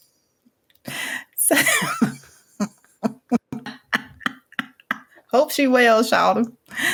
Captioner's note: chuckle